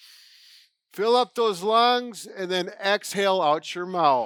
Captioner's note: inhales